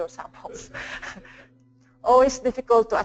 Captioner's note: chuckles